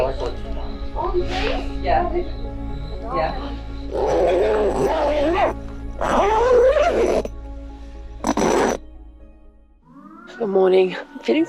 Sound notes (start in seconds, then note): 0.0 insects singing; 0.7 people chattering; 4.3 zipper buzzes